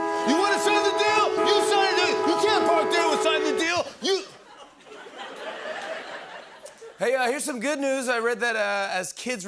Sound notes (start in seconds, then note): 4.3 laughter